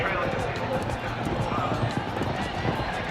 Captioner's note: cheering